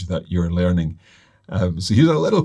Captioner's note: none